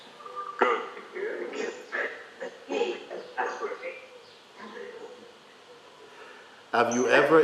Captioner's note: voices in audience